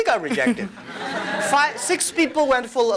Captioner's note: laughter